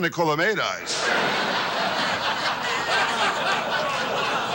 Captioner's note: audience laughs